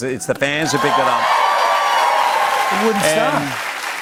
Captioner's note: cheers and applause